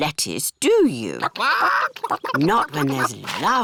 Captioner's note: chickens chatter